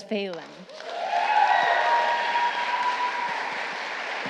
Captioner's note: applause